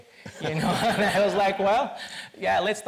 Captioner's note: all laugh